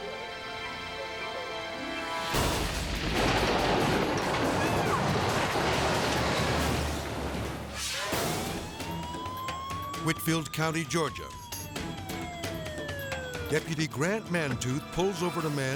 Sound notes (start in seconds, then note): 0.1 intense music; 0.1 soil crashing; 7.3 screen whooshes; 8.0 siren wailing